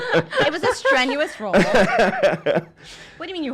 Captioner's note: laughing